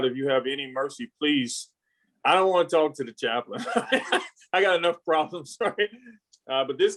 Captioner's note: laughs